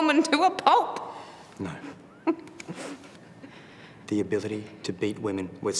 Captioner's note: chuckles